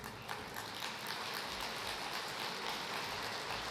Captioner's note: applause